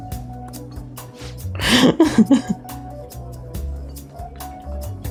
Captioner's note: laughs